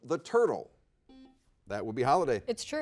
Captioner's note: buzzer dings